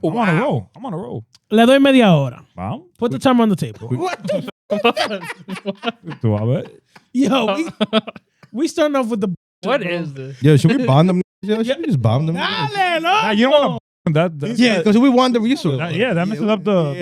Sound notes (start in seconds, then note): 5.7 laughing